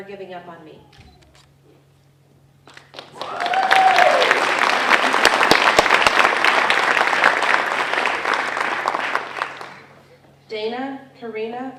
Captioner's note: applause